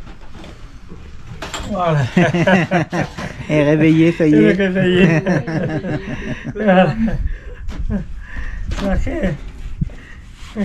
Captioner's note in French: rigole